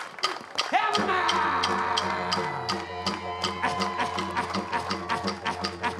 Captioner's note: chants in language